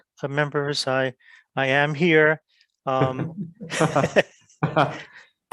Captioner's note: giggles